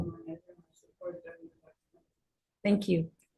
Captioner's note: radio interference drowns out speaker